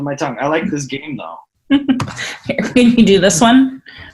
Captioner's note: laughs